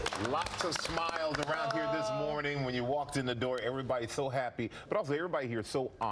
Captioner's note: applause